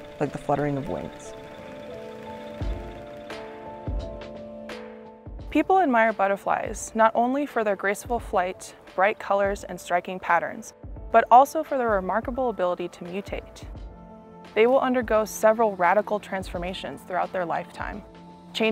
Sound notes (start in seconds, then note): 1.6 gentle music; 1.6 machine whirring